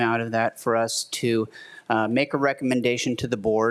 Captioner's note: none